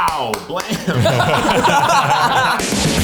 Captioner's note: group laughs; upbeat music